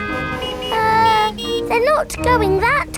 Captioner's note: horns honking